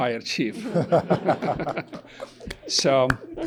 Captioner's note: participants laughing